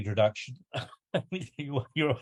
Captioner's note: laughs